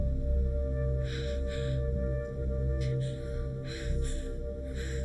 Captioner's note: Gina panting